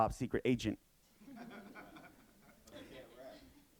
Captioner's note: audience laughing